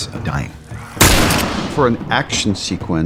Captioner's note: gunshot